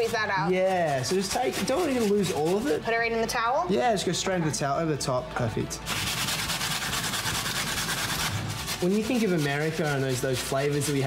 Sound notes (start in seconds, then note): 5.9 grating